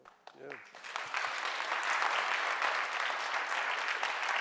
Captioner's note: audience clapping